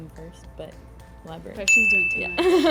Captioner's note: bell chimes